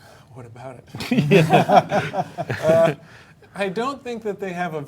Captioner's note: panelists laughing